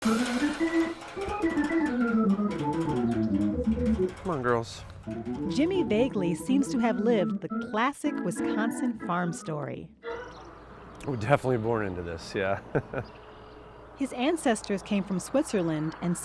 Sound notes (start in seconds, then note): 3.1 windmill rattling; 4.1 organ playing